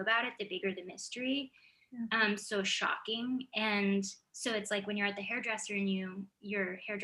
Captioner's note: none